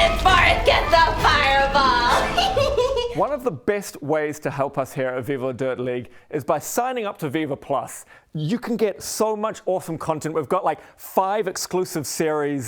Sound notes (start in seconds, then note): 2.3 laughs